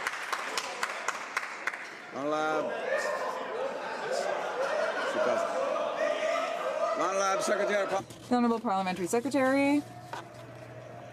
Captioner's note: some Applause